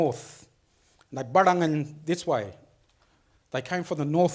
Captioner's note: speaks foreign language